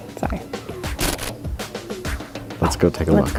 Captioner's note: static